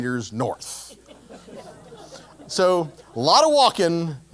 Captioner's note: laugh